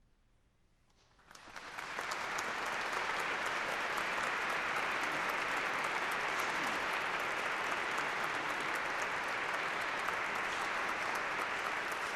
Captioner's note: applause